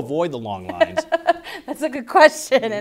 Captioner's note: laughs